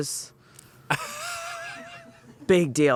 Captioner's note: laughs